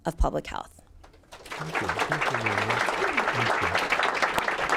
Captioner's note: applause